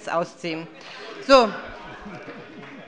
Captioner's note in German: Beifall